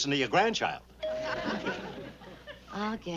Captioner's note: doorbell rings